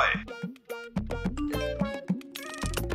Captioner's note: phone beeping